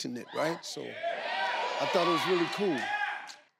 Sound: crowd

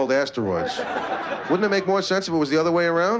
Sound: laughter

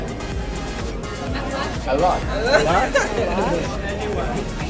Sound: laughing

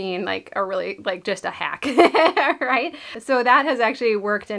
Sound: laughs

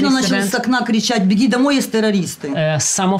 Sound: speaking in foreign language

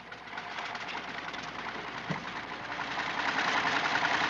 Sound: engine rumbling

